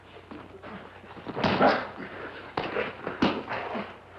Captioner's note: both grunting